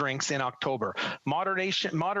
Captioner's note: speaking French